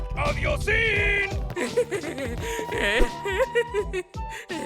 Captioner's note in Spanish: Arnold se ríe nerviosamente